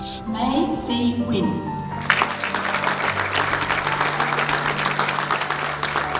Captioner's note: voiceover; audience clapping